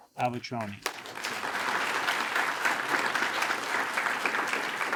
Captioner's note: attendees applaud